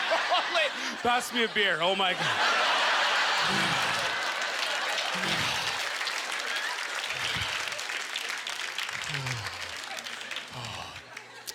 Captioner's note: audience laughter; scattered applause